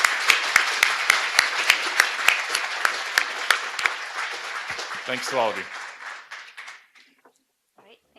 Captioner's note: applause